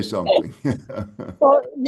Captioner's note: chuckles